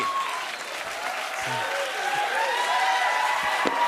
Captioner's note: cheers and applause